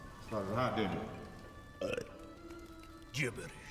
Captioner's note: belches